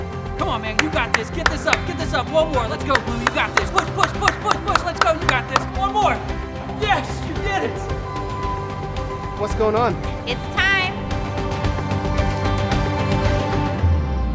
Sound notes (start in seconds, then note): 7.7 beep beep; 12.7 music intensifies